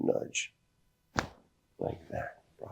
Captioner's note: joint cracks